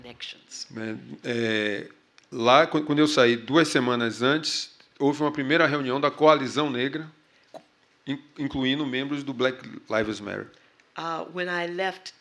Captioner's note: speaking portuguese